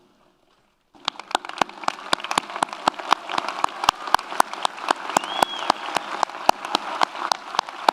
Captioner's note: audience applauds; audience cheers